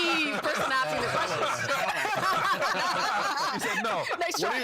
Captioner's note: all laughing